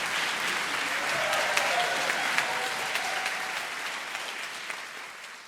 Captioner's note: audience cheering